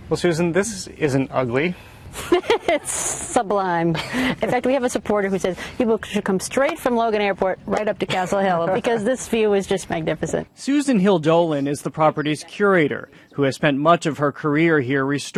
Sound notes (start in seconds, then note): 2.2 laughing